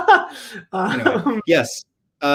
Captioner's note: laughs